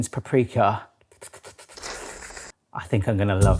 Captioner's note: slurps